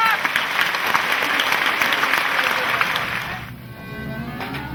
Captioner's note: audience applauding; light orchestral music